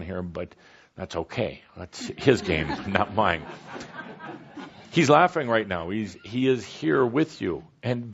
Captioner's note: laughter